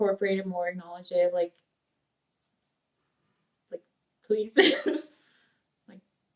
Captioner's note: laughs